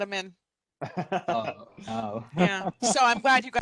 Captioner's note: laughing; laughs